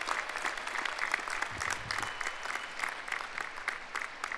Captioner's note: applause